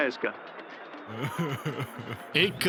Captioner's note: desperate crying